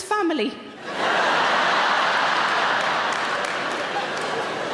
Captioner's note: audience laughing